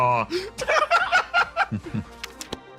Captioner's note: laughs